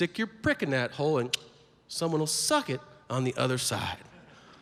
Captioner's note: clicks tongue